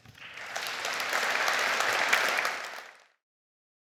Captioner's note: audience clapping